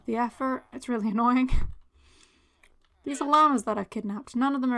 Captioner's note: laugh